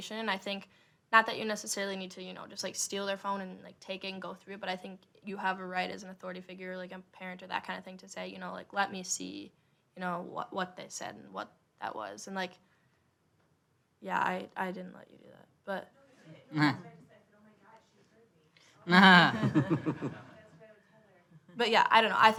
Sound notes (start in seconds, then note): 18.9 audience laughing